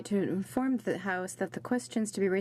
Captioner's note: speaking french